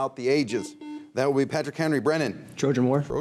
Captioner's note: buzzer dings